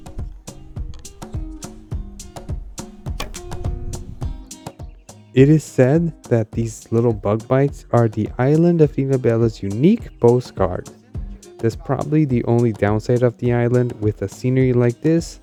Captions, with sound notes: (speaking in foreign language) (speaking in foreign language) It is said that these little bug bites are the island of Ilhabela's unique postcard. That's probably the only downside of the island with a scenery like this,